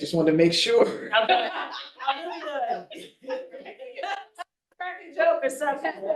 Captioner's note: board members chattering and laughing